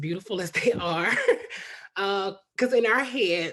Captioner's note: chuckles